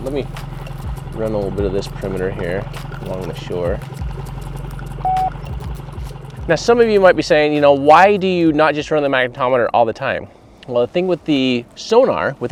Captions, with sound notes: Let me run a little bit of this perimeter here, along the shore. (electronic beep) Now some of you might be saying, you know, "Why do you not just run the magnetometer all the time?" Well the thing with the sonar,